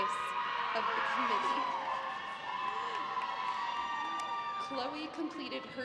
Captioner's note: graduates cheers